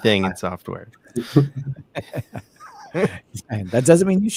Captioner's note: laughing